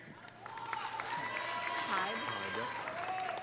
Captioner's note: audience applauding; audience cheering